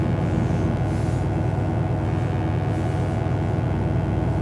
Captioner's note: electric buzzing